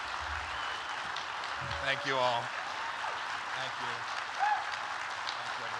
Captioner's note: applause